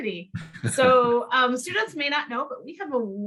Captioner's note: laughing